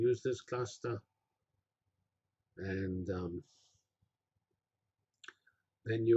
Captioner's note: pause